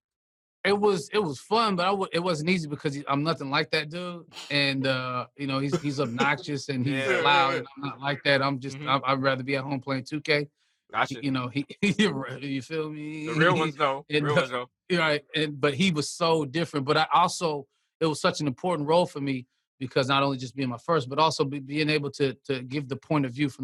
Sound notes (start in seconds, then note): 5.7 laughter; 11.0 chuckles